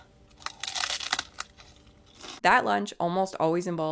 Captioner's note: sprout crunching